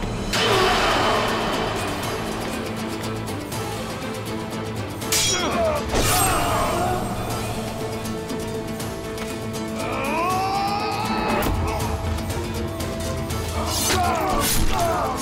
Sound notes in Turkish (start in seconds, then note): 0.4 Aksiyon müziği; 9.7 Bağırıyor